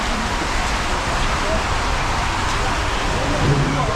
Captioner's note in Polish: odgłos wody